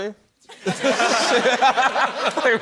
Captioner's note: laughter